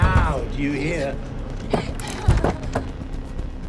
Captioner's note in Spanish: Anna murmura; llorando